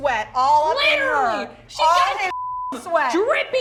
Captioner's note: beep